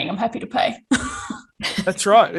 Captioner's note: laughs